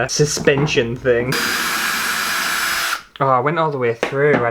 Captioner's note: drilling Motor